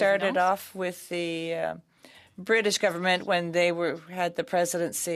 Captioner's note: speaking French